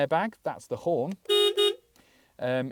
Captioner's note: beep beep!